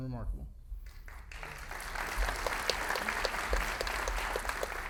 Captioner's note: audience laughing